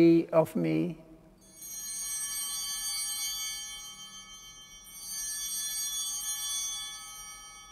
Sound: altar bell ringing

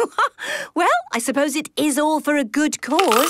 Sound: laughs

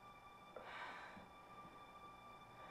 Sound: sighs

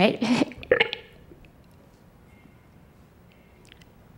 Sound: gags

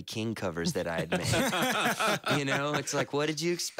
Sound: laughter

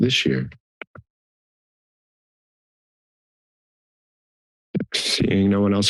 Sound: silence

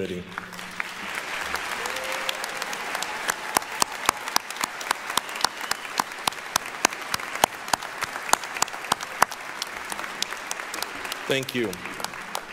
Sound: applause

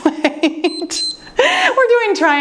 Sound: laughs; timer beeps

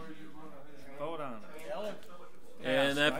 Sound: overlapping chattering

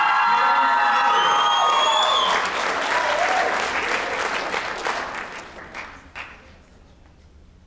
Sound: applause

